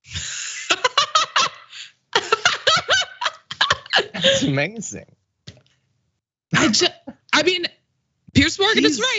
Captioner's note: laugh